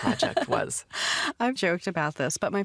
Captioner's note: laughs